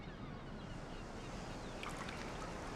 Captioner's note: bird sounds; water dripping